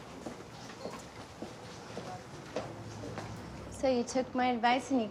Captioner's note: heels clacking